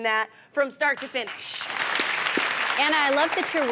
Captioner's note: audience applauding